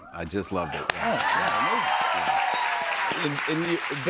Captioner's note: cheers and applause